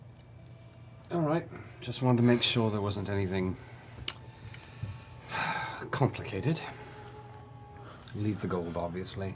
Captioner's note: sighs